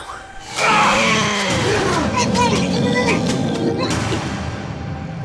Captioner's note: creature growling